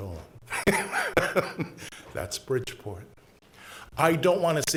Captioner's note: laughs